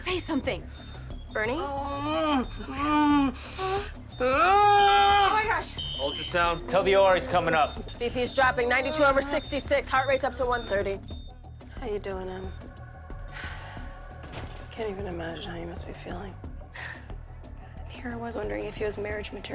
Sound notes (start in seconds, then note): 1.7 groans; 4.2 screams; 5.3 alarm blaring; 13.3 sighs; 16.0 chuckles